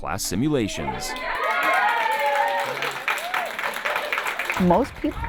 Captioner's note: class applauds; class cheers